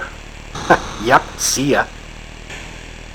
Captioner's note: chuckles